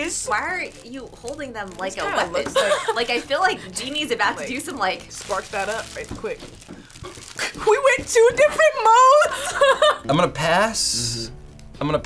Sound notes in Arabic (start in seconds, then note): 9.0 كلاهما يضحك; 9.3 ضحكة مكتومة